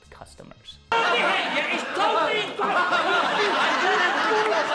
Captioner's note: laughs